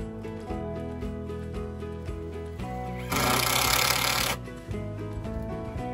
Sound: electric drill sound

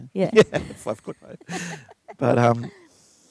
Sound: laughing

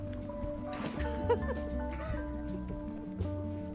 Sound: laughter

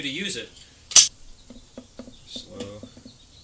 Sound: metal clicking

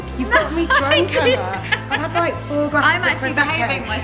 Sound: laughs

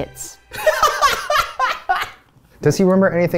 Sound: laughs

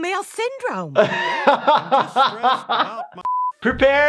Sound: laughs

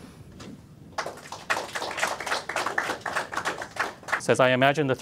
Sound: applause

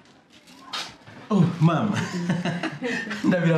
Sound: chuckles

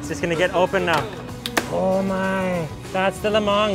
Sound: bamboo shoot cracks

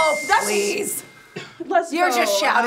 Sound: bell chiming

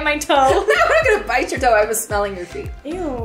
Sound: laughs

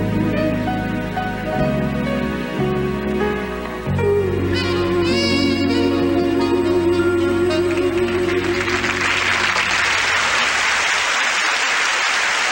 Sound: applause

